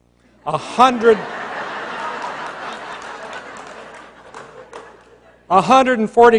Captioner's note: laughter